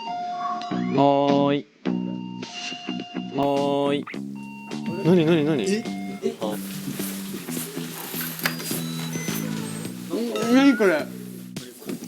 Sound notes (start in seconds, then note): 4.4 suddenly the Doorbell Rings!